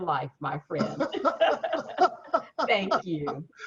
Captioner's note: laughs